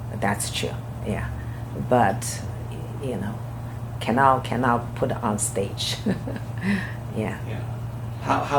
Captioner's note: laughs